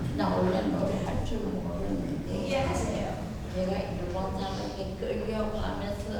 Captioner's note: speaking in foreign language